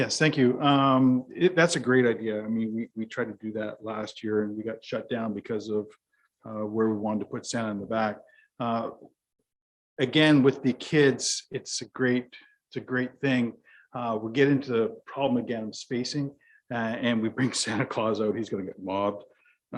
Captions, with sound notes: - Yes thank you. That's a great idea I mean we tried to do that last year and we got shut down because of where we wanted to put Santa in the back. Again with the kids, it's a great, it's a great thing. We're getting into the problem again spacing and we bring (chuckles) Santa Claus out. He's gonna get mobbed.